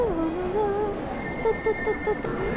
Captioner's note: humming